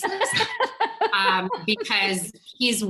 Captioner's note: all chuckle